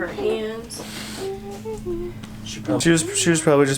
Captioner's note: humming